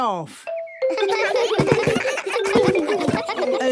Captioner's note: giggles